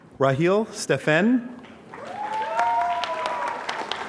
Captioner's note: applause